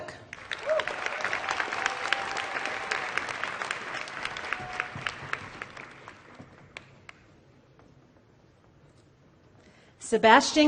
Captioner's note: applause